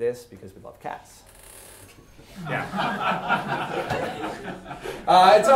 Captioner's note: class laughing